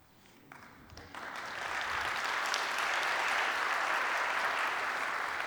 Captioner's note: applause